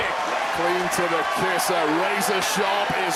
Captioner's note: crowd cheers